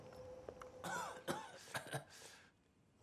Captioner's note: coughs